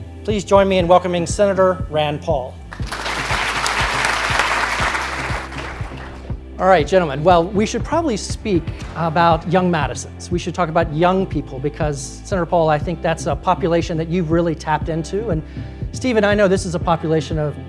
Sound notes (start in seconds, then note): 2.7 applause